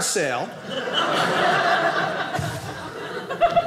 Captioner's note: audience laughing